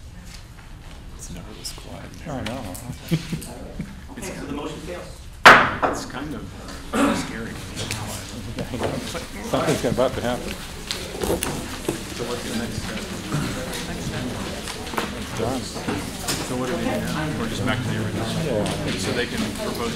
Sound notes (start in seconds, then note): 4.4 laughter; 5.4 gavel pounding